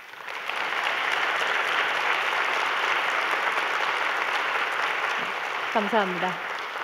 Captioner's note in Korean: 박수